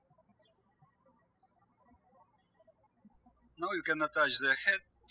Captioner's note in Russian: птички щебечут